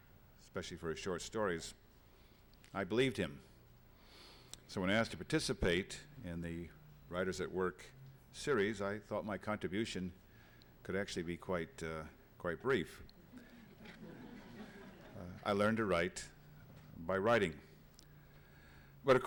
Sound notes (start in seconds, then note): 13.3 laughter